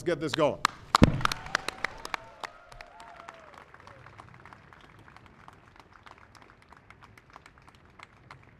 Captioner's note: applause